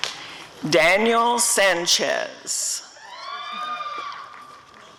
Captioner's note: audience cheering